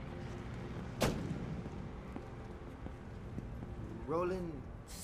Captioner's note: car door closing